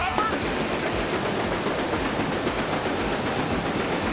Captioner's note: fireworks popping